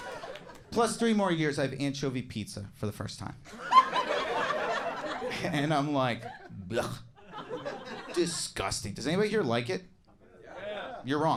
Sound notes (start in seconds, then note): 3.5 audience laughing